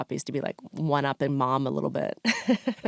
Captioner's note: laughs